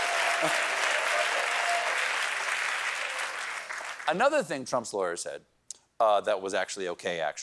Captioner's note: cheering